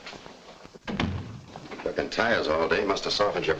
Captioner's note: door thuds shut